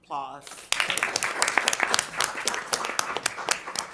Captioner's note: crowd clapping